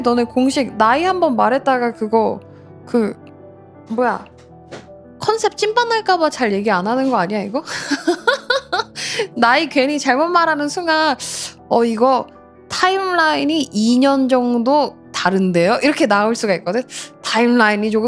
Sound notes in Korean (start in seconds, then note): 7.6 웃음